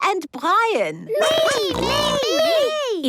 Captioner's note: snorting